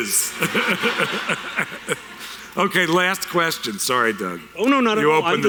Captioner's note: audience laughter